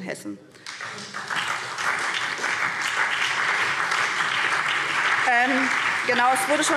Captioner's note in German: Beifall SPD